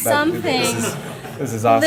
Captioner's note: laughter